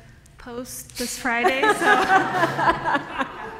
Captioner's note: laughter